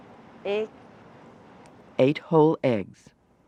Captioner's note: voiceover